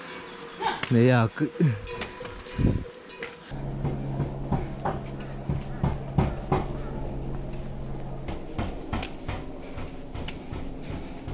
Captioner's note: helicopter hovering